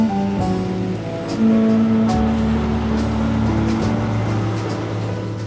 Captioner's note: truck engine rumbling